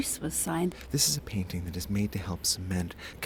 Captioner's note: voiceover